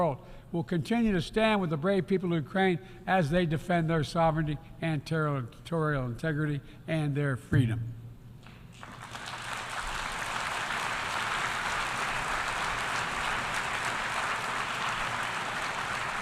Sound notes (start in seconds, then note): 12.3 applause